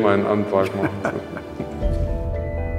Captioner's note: laughter; dreamy music